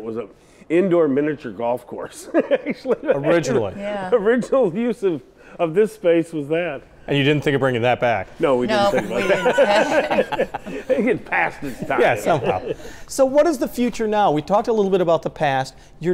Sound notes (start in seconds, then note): 2.2 laughs; 8.8 all laugh